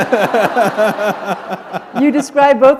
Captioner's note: laughter